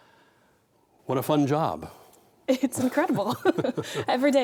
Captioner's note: chuckling